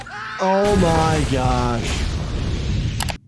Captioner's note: driver and passenger shriek